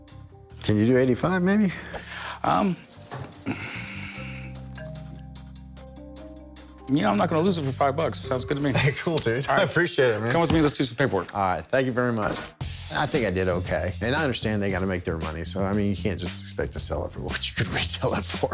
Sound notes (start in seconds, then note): 3.3 sighs; 5.9 tense music